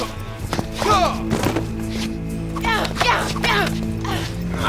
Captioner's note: grunting